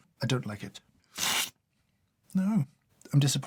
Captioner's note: slurp